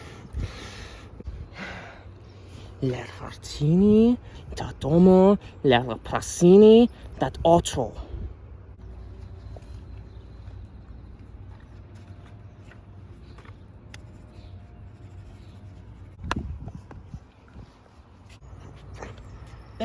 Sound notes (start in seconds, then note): 3.1 speaks Esperanto